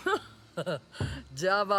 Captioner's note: chuckling